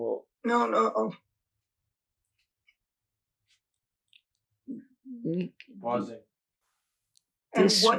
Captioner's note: pauses for 6 seconds